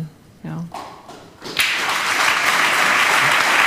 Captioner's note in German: Applaus